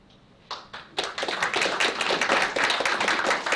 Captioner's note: applause